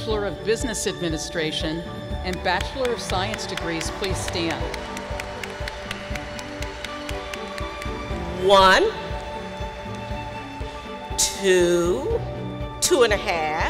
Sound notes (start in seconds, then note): 4.9 applause